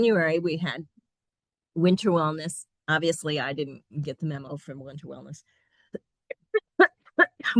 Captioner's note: coughing